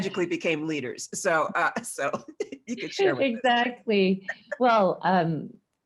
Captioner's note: laughs